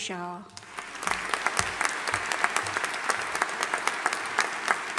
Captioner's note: audience applauding